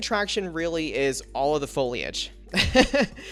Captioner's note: laughs